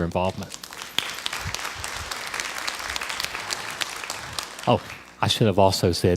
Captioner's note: crowd applause